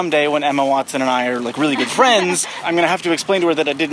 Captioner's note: laughs